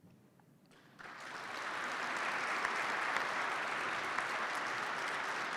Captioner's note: participants clap